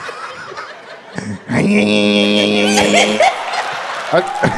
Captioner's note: pedaling sound